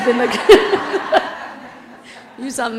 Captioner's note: laugh